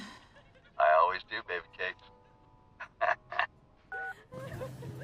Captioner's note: chuckles